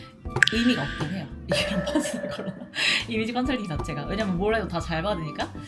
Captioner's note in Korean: 웃음